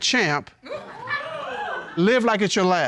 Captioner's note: audience laughing, hooting